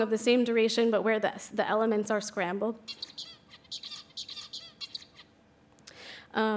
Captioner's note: bird singing